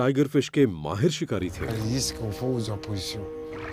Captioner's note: speaks foreign language